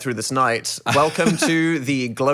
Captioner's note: laughing